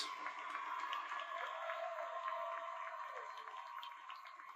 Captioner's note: audience cheers